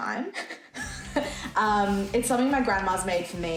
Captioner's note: both laughing